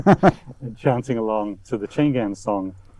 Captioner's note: laughing